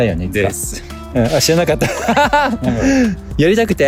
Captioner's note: laughs